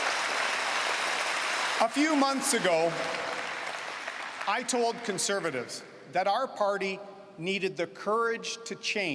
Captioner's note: cheering and Applause